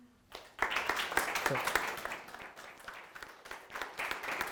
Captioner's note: applause